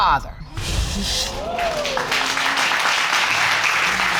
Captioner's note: audience applauding